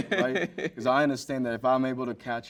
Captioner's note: host laughs